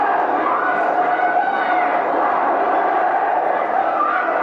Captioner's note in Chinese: 人群狂呼